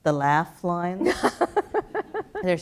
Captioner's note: laugh